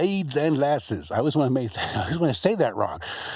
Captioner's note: laughs